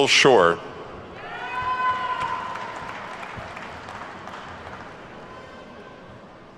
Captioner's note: attendees whooping and clapping